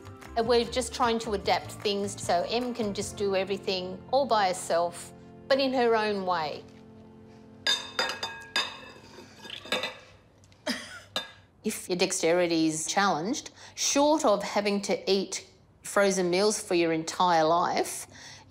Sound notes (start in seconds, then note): 10.4 chuckles